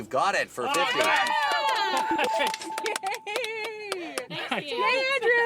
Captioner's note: bells